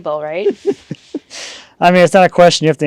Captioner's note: laughing